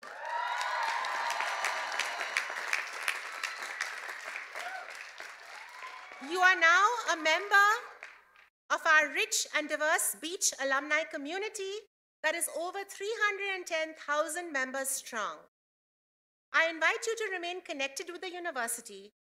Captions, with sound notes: CLASS OF 2018, YOU ARE NOW ALUMNI OF CSULB’S COLLEGE OF EDUCATION. [CHEERS AND APPLAUSE] YOU ARE NOW A MEMBER OF OUR RICH COMMUNITY THAT IS OVER 310,000 MEMBERS STRONG.